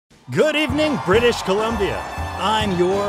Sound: audience cheering; upbeat jazz music

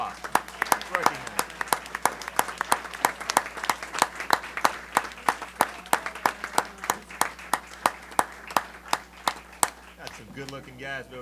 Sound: applause

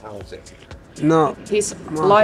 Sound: speaking in a foreign language

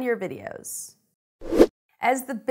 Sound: air rushes

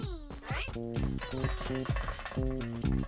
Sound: sad chattering; upbeats playing

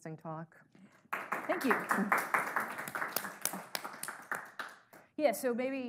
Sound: audience applauding

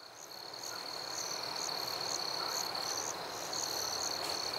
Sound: bugs chirp

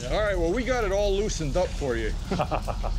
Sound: chuckles

